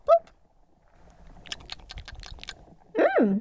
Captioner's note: eating sounds